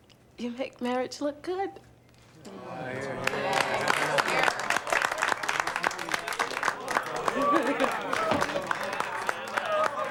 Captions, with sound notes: you make marriage look good. (everyone applauding)